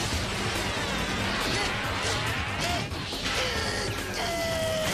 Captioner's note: exclaiming; screaming